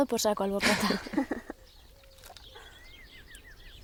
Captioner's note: birds chirping